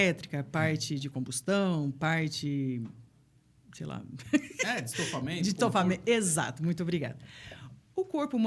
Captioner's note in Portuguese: risadas